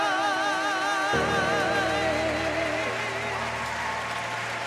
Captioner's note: audience applauding